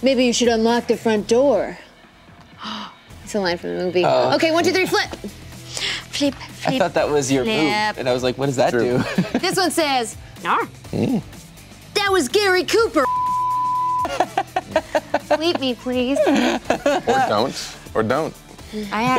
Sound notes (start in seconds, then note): 13.0 beep; 16.5 laughing